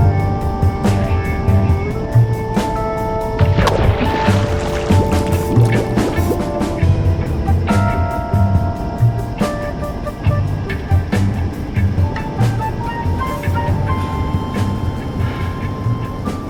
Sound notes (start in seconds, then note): 3.4 water splashing; 3.4 air bubbling; 7.6 soft jazz music